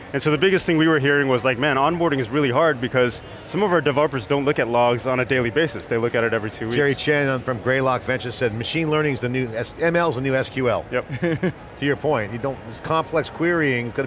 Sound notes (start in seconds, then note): 11.1 laughing